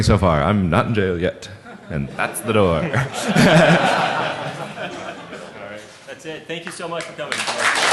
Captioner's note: laughing